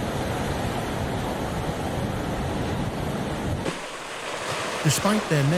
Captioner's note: wind blowing